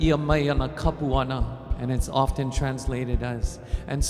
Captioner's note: speaking in Hawaiian